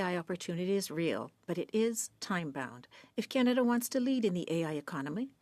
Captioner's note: speaking French